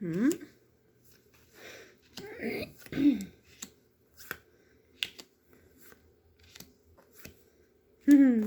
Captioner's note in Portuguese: limpando a garganta